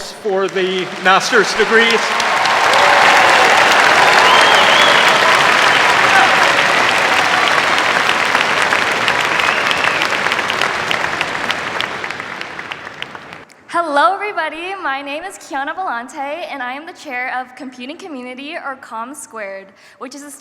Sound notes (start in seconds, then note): 2.7 cheers, applause